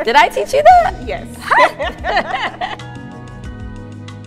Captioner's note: laughs